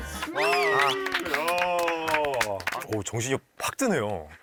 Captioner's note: big applause